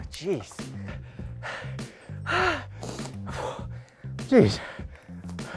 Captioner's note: gasping for air